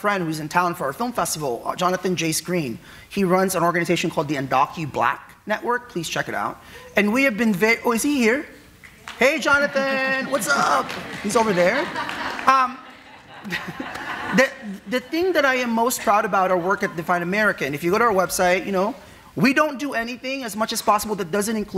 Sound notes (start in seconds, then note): 9.0 audience applauding; 12.0 audience laughing